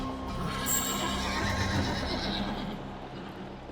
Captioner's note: horses whinny